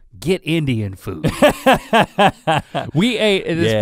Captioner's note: Rhett laughs